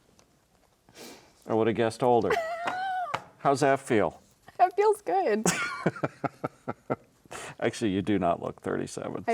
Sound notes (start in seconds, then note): 2.3 laughing; 5.4 laughing